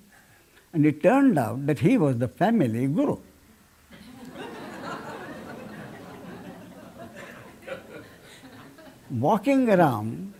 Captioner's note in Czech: smích